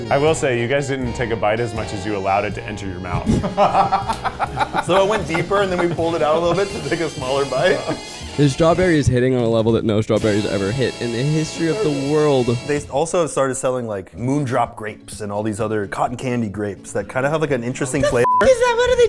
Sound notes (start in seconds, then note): 3.2 laughing